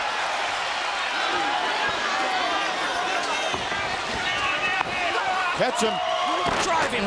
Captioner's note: crowd chatter